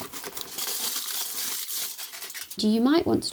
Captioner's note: foil crinkling